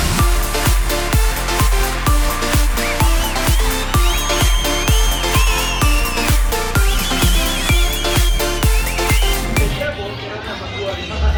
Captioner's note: applause